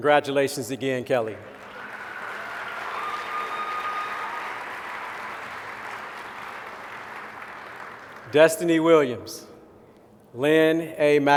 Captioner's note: applause